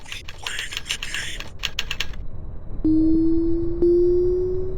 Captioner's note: voice From Computer